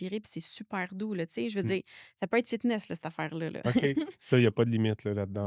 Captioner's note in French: rires